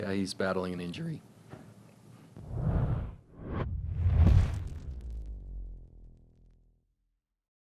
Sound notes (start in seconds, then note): 2.4 whoosh; 3.9 rumbling